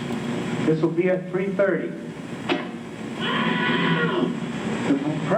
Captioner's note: man yelling